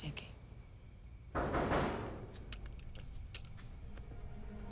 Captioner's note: there's a knock at the door